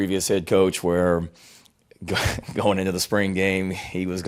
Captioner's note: giggls